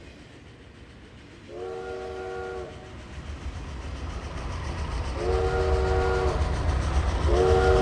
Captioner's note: train approaches; train whistle blows